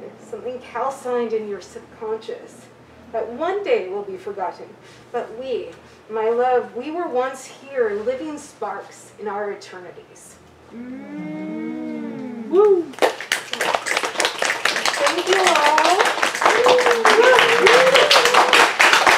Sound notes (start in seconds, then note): 10.2 audience mmm, woos then applauds